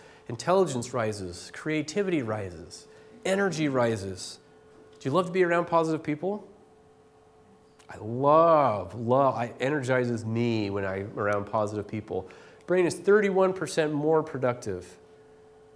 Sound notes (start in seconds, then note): none